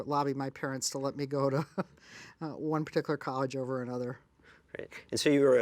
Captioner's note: laughs